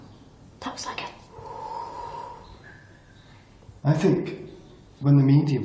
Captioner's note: blowing